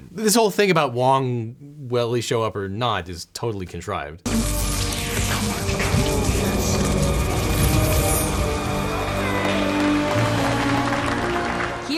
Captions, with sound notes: This whole thing about Wong, will he show up or not, is totally contrived. (magic whirring) (dramatic music) (audience applauds)